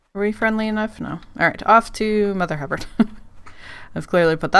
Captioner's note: laughs